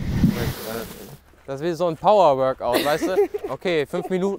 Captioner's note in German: Sie lacht